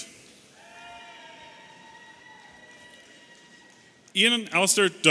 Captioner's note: audience cheering